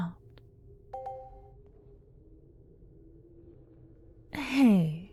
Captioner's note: positive sounding chime in the distance